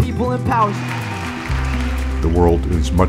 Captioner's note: applause